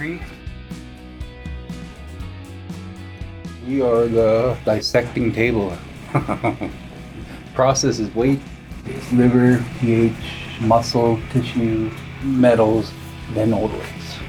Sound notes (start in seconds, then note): 0.3 bright music; 6.0 chuckles